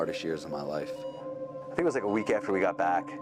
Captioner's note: machine beeps